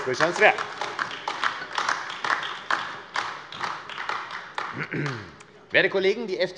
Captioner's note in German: Beifall AfD